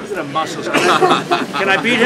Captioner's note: laughter